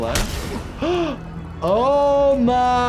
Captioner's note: gasps